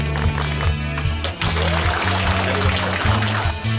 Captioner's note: cheering and applause; round of applause